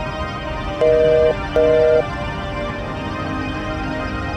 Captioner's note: phone beeps